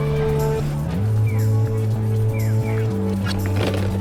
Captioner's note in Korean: 이제는 익숙해진 뻐꾸기 소리